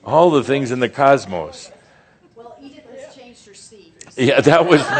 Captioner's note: laughter